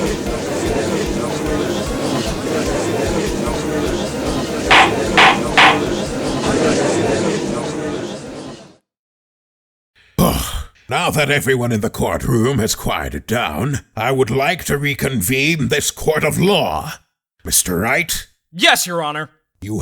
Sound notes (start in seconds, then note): 0.1 gallery chattering; 10.5 sigh